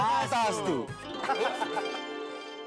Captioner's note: laughing